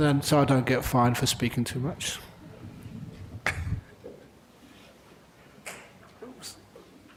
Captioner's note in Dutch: lacht